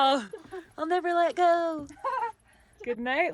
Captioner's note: laughs